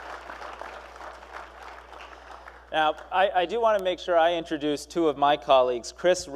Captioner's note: applause